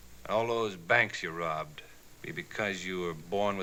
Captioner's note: none